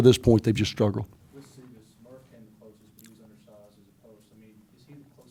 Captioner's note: voiceover